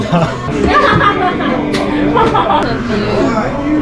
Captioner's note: laughing